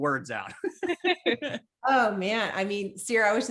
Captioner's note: group chuckling